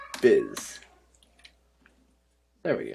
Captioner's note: near Silence